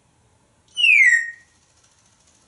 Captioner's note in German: whistling